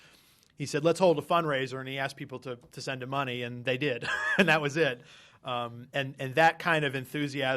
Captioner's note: laughter